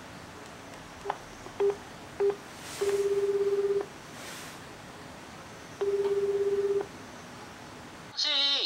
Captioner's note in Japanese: 電話の呼び出し音